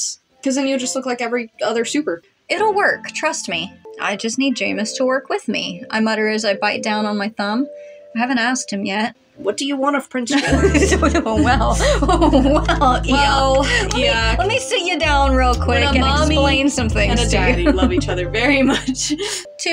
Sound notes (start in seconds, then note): 10.3 sensual Music; 10.4 flustered Laughing; 11.9 sensual Music; 18.4 giggle